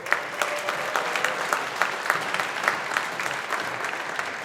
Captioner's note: audience applauding